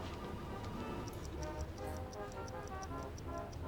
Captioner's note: ticking